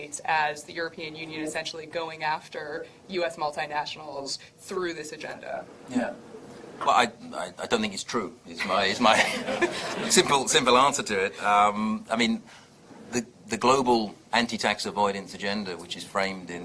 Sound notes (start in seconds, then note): 9.1 audience laughs